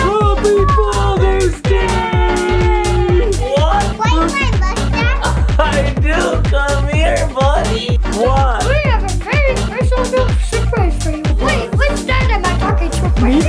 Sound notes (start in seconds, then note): 0.0 laughing; 5.1 chuckles